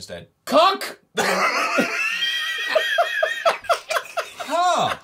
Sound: laughter

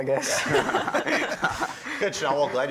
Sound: laughter

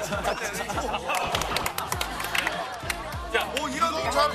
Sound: clap Clap

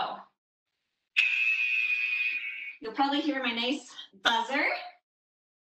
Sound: alarm blares

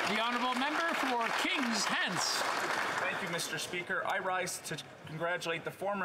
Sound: some Applause

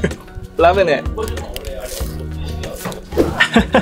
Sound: chuckles; crunch; laughs

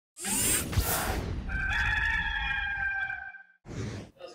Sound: whoosh, cock crowing

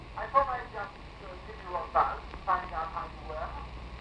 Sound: on phone

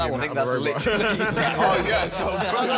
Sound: all laughing

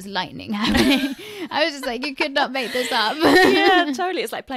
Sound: laughs

